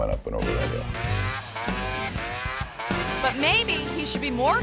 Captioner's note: engine revving